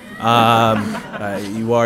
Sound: laughter

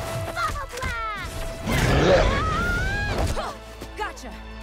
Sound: yells; roars

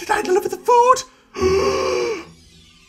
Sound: gasp

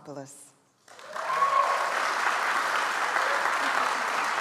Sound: audience applauds

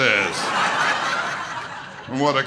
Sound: audience laughter

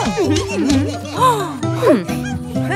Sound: indiscriminate chatter; preoccupied sigh

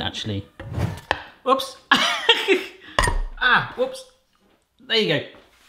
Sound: laughs

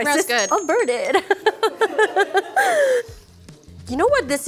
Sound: laughing

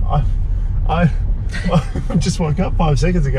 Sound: laughs

